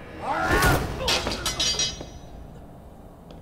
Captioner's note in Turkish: İnilti sesi